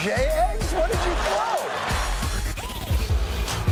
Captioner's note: audience laughter